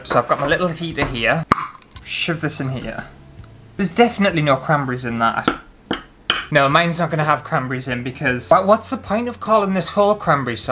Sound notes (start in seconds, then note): 5.9 spoon clashing on pan